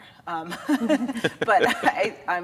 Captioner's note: all laughing